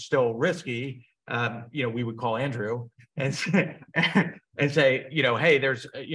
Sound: chuckles

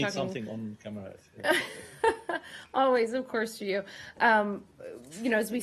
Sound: laughter

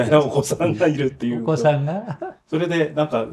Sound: laughs

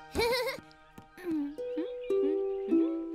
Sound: chuckles; humming

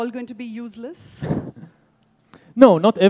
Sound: laughs

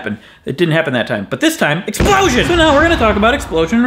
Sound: explosion noise

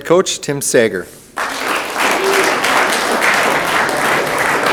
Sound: room applauds

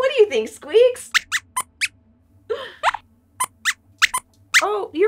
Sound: squeaks squeaks

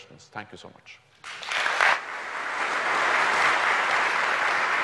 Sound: audience applauds

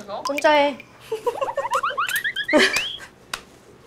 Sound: giggle

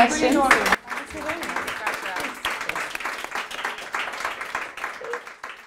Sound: crowd and presenter applause

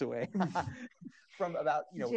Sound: laughs

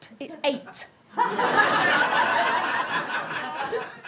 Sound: audience laughter

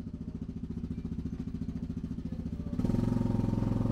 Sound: engine revving

